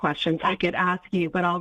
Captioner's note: laughing